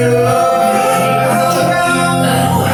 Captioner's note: gritty vocals; cough